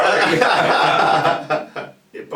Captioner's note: laughter